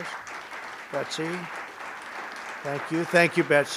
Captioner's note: applause